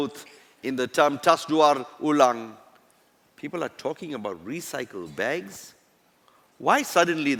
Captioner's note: non-english